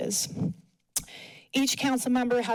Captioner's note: smacks lips